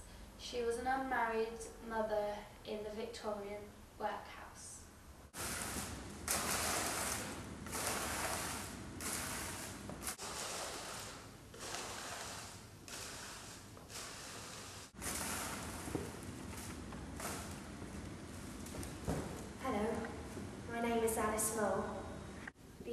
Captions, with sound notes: She was an unmarried mother in the Victorian Workhouse. [Sweeping] - Hello, my name is Alice Small